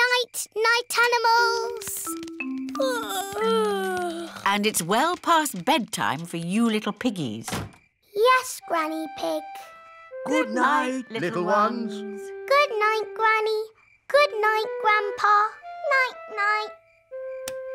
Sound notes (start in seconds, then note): 3.2 yawning